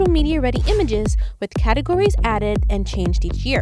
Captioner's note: air whooshing